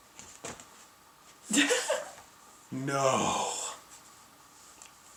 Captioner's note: laughs